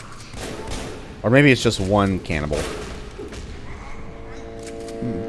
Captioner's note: Railgun chargeup